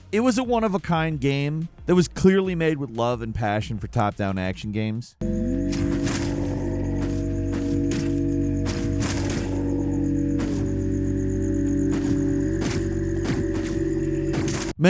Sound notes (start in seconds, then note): 5.2 calm music; 5.3 sword whooshing; 12.7 gun shooting